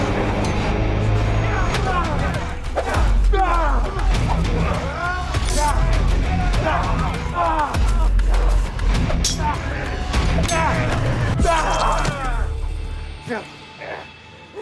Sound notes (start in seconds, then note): 0.2 dramatic music; 5.4 both moaning; 6.8 dramatic music; 9.2 swords clanging; 13.2 both moaning